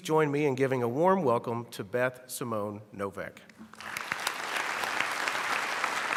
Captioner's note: applause